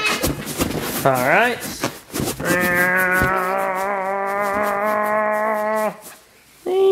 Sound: grunts

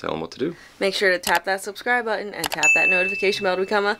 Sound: ping

